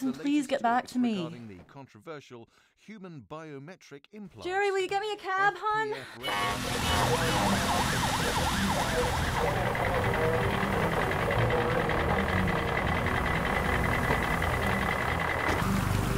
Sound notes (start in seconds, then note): 8.1 horns and sirens; 11.2 radio chatter; 11.2 truck engines